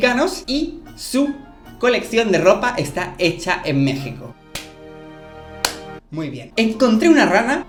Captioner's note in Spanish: clap, clap